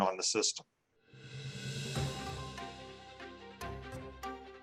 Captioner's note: logo whooshing